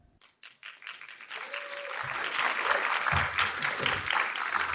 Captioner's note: audience claps